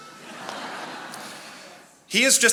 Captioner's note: attendees laughing